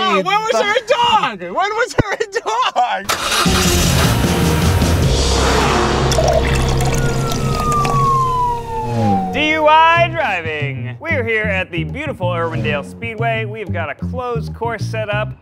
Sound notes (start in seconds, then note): 3.0 car starts; 3.2 laughs; 6.0 drink pours